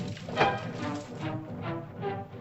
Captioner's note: hooves softly pounding; whack; suspenseful music